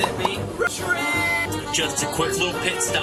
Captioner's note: text popping